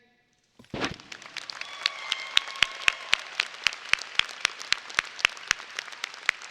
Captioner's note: audience applauding and cheering